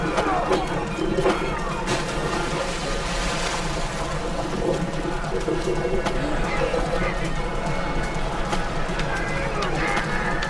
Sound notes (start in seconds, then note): 1.9 splash